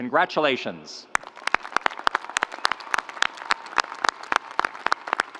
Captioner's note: audience applauds